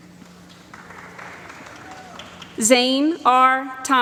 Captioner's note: applause